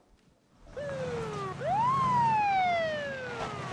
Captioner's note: sirens wailing